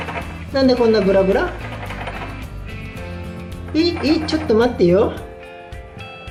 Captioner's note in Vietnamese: cười